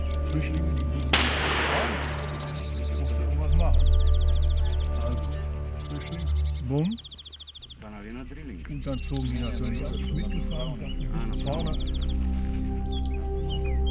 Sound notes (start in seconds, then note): 1.0 hunters chattering; 1.1 gunshot; 11.0 chattering